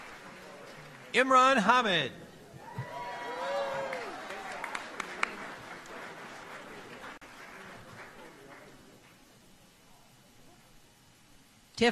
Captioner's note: applause